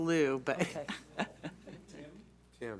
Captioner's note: laughs